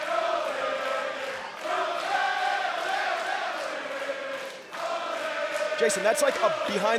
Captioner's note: fans chanting